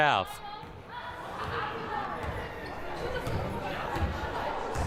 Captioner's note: crowd murmuring